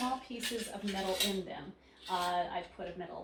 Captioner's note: metals creaking